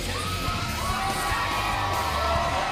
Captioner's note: crowd cheering